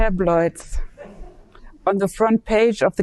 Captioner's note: audience laughing